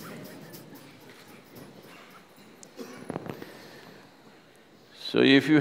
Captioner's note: laughs